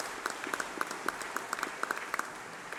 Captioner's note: applause